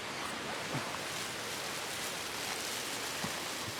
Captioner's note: rustling